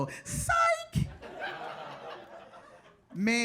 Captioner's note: audience laughs